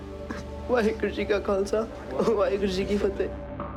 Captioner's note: speaking foreign language